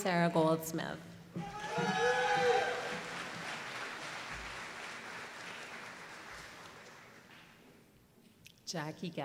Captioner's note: applause